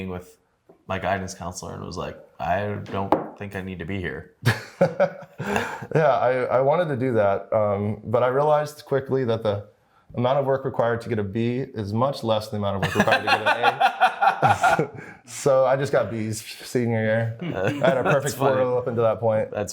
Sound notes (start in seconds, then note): 4.5 laughs; 12.8 laughs